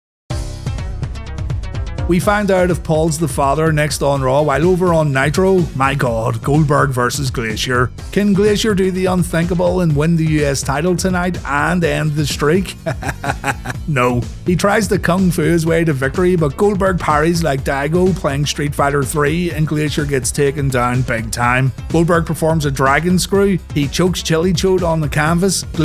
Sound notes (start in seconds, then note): 12.8 laughter